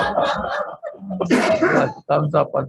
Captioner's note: group laughs